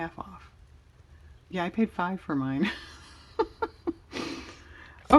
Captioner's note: laughs